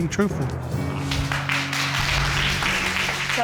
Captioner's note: applause